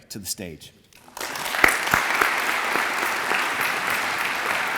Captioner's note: audience applauds